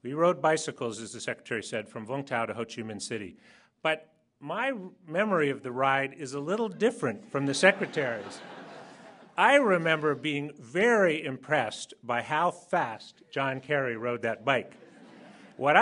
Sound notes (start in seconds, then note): 7.4 laughter